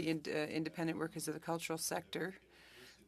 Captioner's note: speaking French